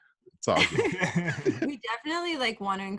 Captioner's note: laughter